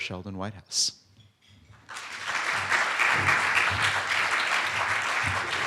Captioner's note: applause